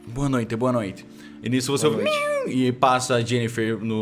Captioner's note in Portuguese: miau